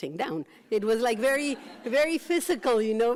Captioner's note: laughs